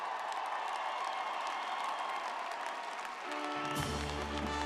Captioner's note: audience applauding; audience cheering; triumphant music